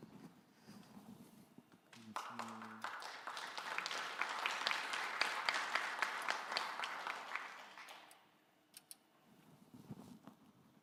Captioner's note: applause